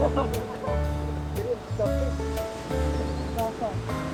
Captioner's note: everyone laughing